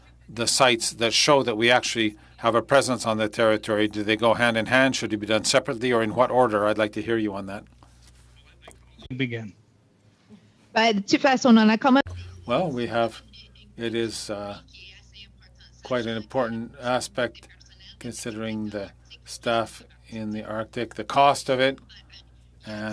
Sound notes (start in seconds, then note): 15.0 speaking French